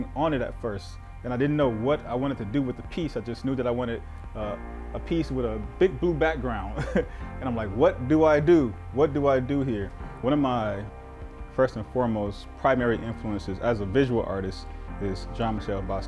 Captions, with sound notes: background is all acrylic, and I had nothing on it at first. And I didn't know what I wanted to do with the piece. I just knew that I wanted a piece with a big blue background (laughing). And I'm like, "What do I do, what do I do here?" One of my first and foremost primary influences